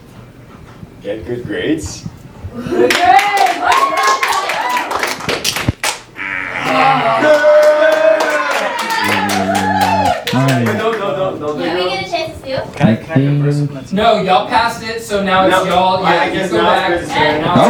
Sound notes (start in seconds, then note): 2.6 green team cheers; 6.3 wrong buzzer; 6.9 clapping and cheering